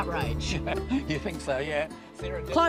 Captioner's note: laughs